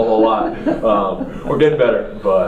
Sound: laugh

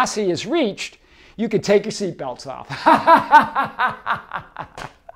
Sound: laughs

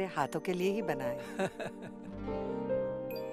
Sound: grandpa chuckles

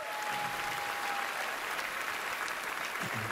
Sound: cheering, applause

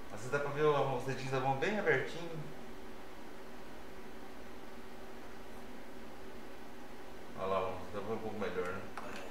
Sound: none

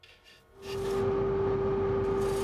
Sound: deep whirring

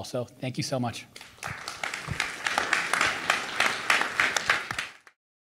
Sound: audience applauding

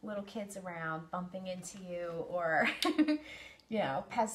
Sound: chuckles

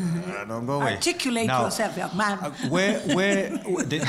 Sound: laugh

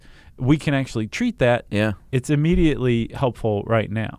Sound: none

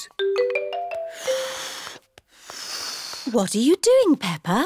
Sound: failed whistle

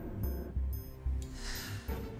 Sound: sighs

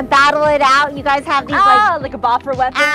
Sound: yells

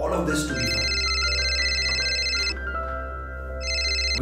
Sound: phone Rings

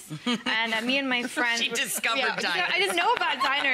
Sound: chuckling

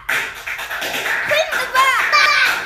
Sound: clapping

